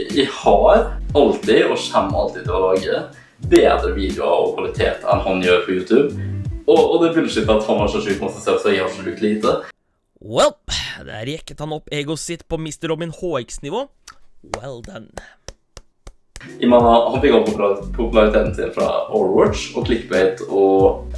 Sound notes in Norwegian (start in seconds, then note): 14.5 Mer ironisk klapping